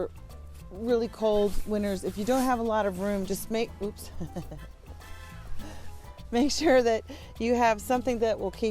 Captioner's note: laughs